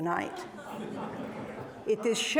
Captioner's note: audience laughing